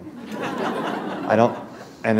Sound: laughter

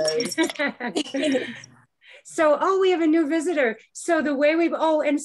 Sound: chuckling

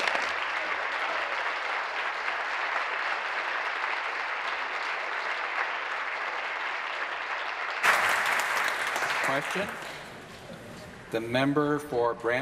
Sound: applause

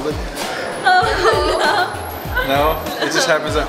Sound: laughing

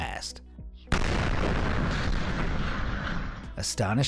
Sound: sonic boom booms

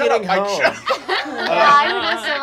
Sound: laughing

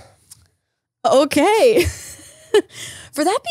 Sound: laughs

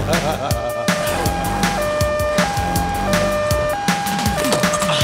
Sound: chuckling; sirens blaring

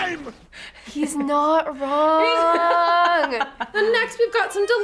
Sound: laughs

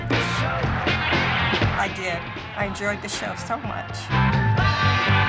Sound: crowd applauding

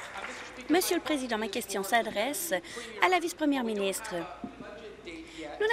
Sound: applause

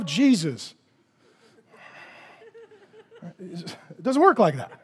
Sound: congregation laughing

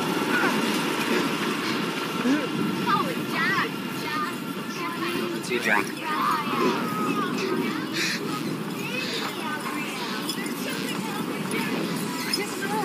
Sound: Multiple distorted voices of the Gardner Family

